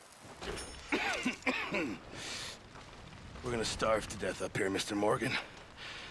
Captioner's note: coughs